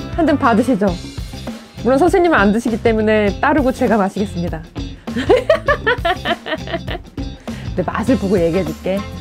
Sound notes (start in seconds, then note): 5.2 laugh